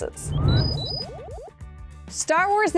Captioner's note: beeping